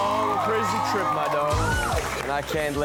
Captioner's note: audience applauds; soft beat music